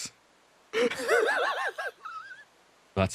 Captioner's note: laughs